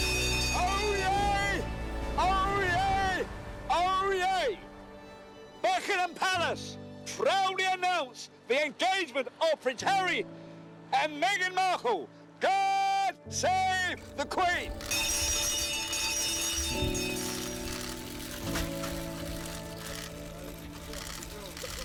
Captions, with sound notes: - Oyez, oyez, oyez. Buckingham Palace proudly announce the engagement of Prince Harry and Meghan Markle. God Save the Queen. (bell clanging) (cheerful music) (camera shutters clicking)